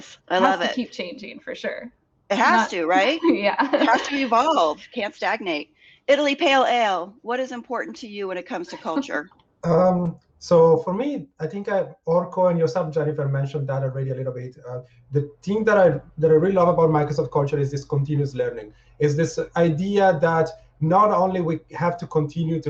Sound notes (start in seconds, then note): 2.5 laughs; 8.5 giggles